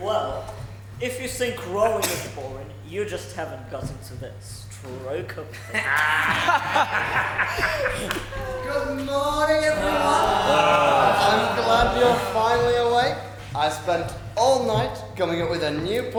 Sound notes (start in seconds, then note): 8.7 pirates and Audience laugh; 11.3 Pirates groan